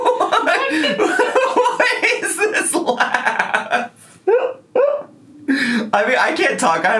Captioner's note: laughing